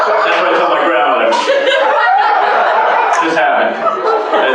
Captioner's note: laughter